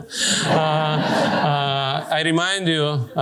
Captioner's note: laughter